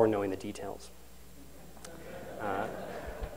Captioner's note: laughter